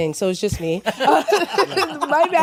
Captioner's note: laughter